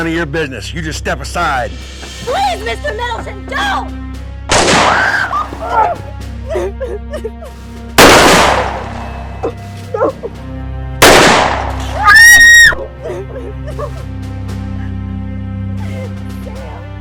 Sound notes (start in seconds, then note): 0.2 suspenseful music; 11.0 gun fires; 12.0 woman screams; 14.2 woman sobs